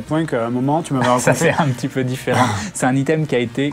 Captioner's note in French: rires